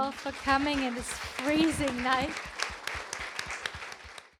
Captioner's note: audience applauds